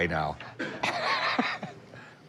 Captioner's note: laughs